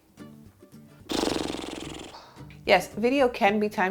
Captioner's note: blows raspberry